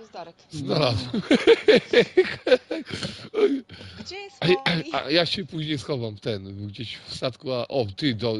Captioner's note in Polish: śmiech